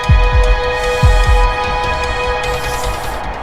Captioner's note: inhales